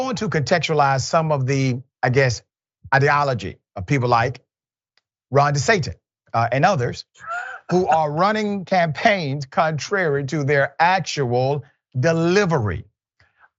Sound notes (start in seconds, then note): 7.2 laugh